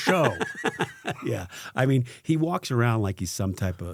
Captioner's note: laughing